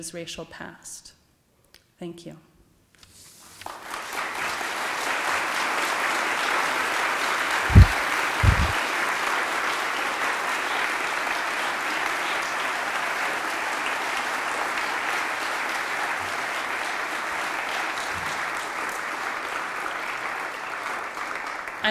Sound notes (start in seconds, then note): 5.1 applause